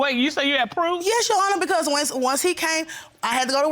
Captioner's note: none